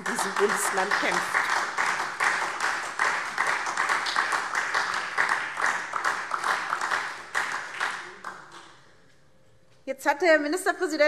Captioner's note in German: Beifall SPD